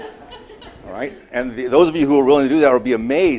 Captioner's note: audience laughing